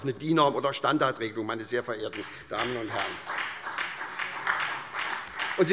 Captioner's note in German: Beifall SPD und Freie Demokraten